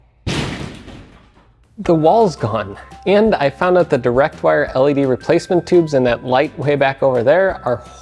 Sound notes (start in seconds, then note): 0.2 loud thud